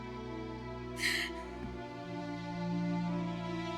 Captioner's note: crying